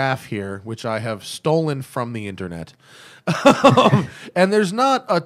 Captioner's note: laughter